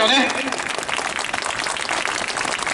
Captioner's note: clapping